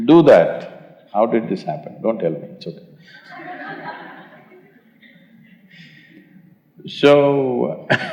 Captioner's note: laughter